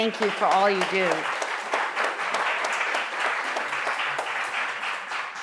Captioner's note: applause